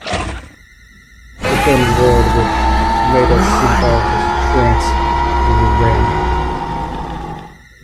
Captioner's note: creature lets out a bone chilling roar that made the ground shake